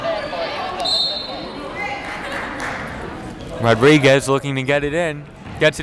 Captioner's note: whistle blowing